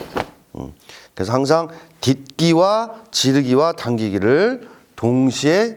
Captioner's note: punch